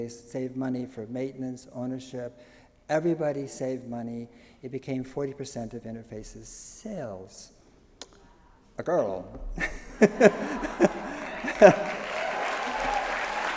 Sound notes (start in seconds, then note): 9.4 laughs; 9.6 audience laughs, applauds